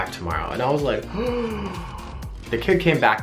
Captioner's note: gasps